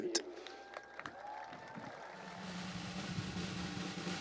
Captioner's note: cheering and applause